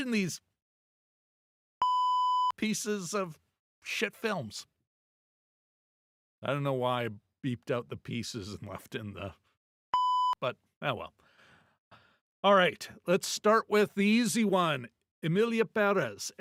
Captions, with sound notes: these pieces of shit films. I don't know why I beeped out the pieces and left in the (beep) but, oh well. All right, let's start with the easy one, Emilia Perez.